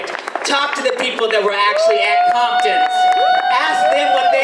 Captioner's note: audience applause